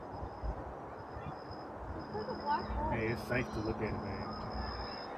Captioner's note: crickets starting to chirp